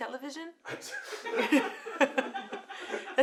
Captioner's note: laughter